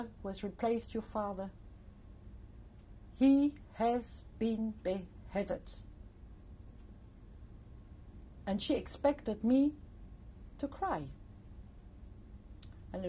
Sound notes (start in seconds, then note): 5.0 pauses for 3 seconds